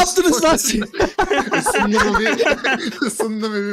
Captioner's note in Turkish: Gülüşmeler